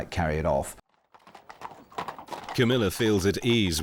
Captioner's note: horses clip-clopping